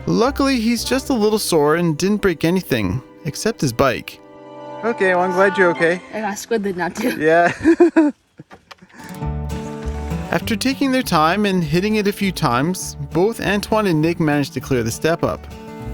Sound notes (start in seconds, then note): 6.9 laughs; 9.0 soft guitar music